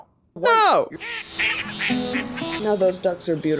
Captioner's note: quacking